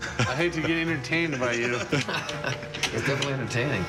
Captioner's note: laughs